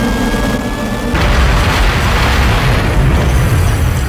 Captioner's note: arrows explode